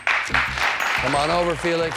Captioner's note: applauding